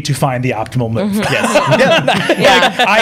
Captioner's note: laughter